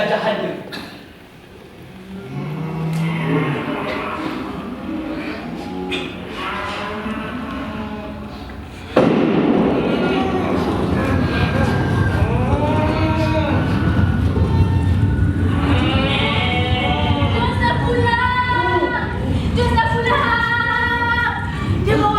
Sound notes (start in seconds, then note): 1.8 animal sounds; 8.9 distant gunshot